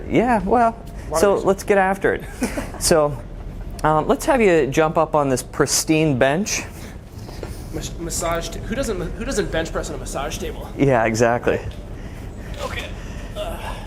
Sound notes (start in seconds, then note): 2.2 laughs